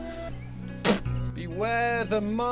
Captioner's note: spits